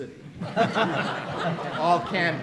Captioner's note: audience laughing